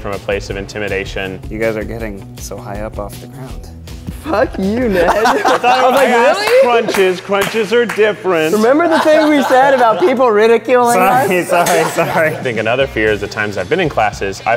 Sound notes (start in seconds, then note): 4.5 laughing